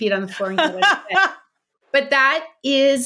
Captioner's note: laughing